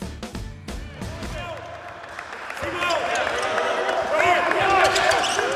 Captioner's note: players shouting